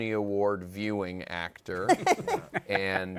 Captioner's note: laughter